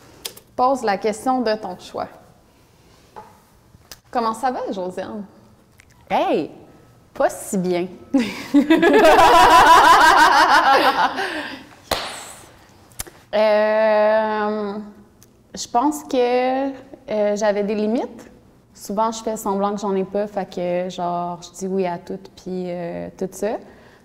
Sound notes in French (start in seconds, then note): 8.2 rires